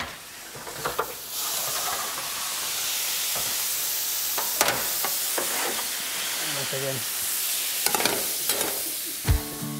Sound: hot steam sizzling; lighthearted music

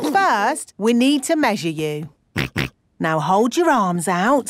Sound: snorts

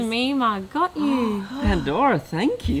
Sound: gasps

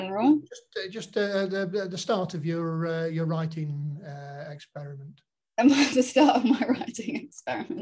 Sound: laughing

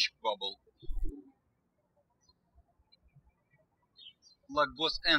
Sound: birds chirping

